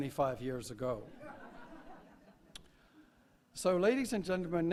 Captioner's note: laugh